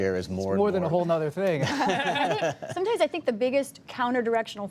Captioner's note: laughter